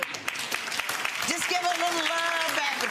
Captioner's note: audience applauding